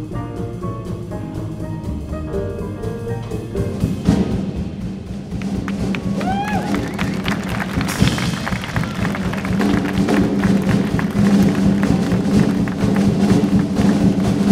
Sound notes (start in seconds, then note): 6.4 audience cheering